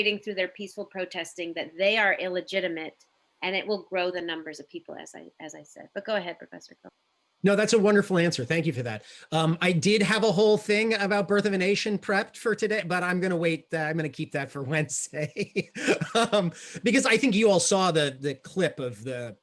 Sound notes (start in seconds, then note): 15.1 laughs